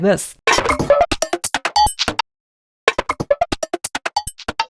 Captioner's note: funky digital sounds